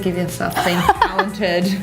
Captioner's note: laughs